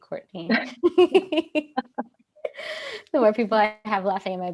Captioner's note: laughter